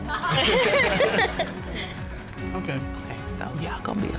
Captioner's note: all laughing